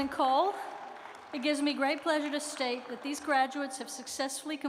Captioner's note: applause